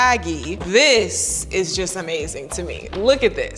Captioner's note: containers clatter